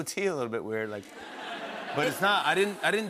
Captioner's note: laughter